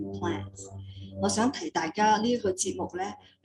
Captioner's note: non english speech